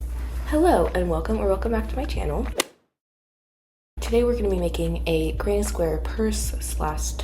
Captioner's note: golf hit sound effect